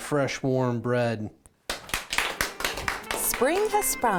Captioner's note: applause